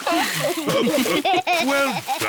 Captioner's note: laughs; all laugh